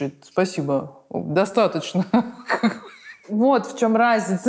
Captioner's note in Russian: смеется